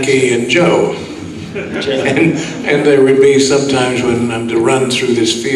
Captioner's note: laughs